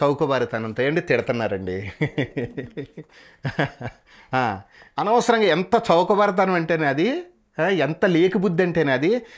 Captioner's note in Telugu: నవ్వు